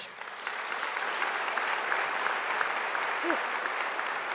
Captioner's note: audience applauding